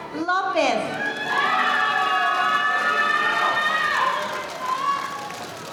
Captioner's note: audience applauding